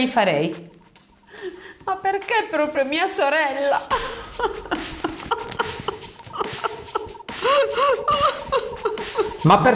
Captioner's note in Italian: piange